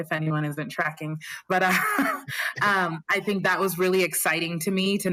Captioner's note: laughter